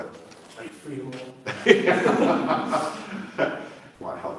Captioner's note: laughter